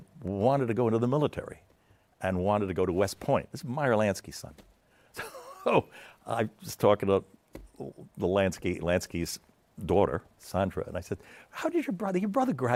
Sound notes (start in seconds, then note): 7.0 laughs